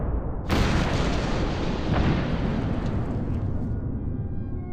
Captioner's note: explosions